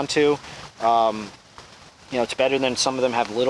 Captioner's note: wind whirring